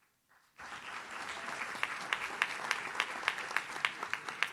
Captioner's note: audience claps